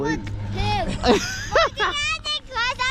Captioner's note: laughter